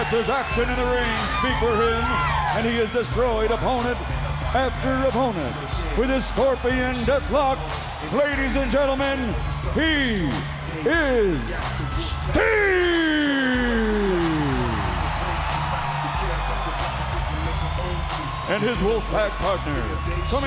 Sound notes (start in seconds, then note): 15.3 crowd cheering